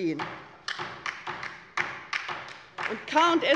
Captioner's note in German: Beifall bei der LINKEN